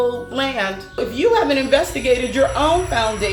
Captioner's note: ethereal buzzing